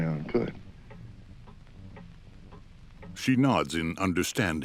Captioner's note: clock ticking